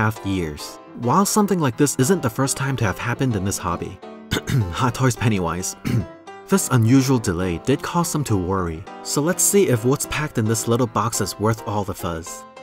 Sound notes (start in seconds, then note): 4.3 ahem